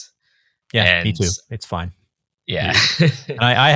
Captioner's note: chuckling